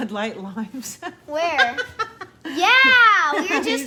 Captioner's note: laughs